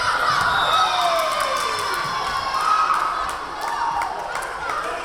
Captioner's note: cheering; whistle blowing; clapping; cheering